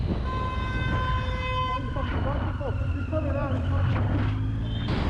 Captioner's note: he honks out of frustration